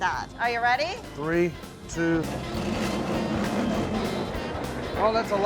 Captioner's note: machine grinding sound